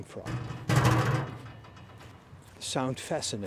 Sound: mechanical sounds

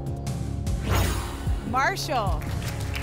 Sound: whoosh

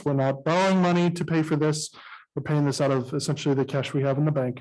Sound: none

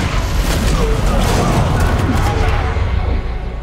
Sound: crimson guards grunting

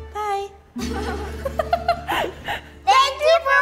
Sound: laughter

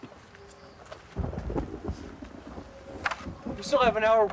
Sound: thunder rumbling

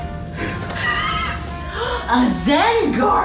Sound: laughs

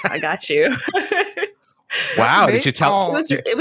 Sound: laughs

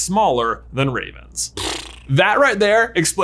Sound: lips trilling

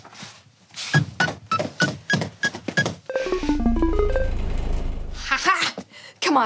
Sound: electronic beeping

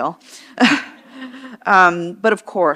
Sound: chuckles

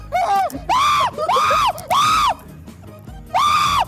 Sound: JJ screaming

